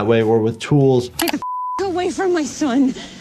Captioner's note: beep